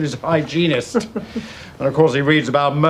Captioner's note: Lovejoy chuckling